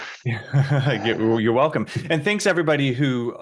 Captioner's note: laughs